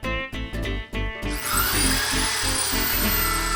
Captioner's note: whirring